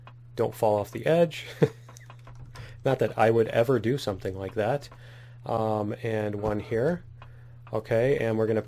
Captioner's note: laughs